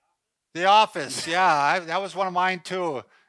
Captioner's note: chuckles